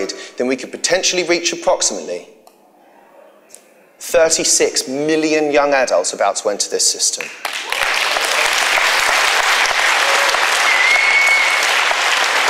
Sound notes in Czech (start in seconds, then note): 7.2 potlesk